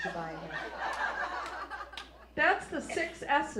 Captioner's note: audience laughs